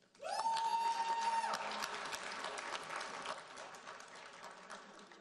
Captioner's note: audience cheering and applauding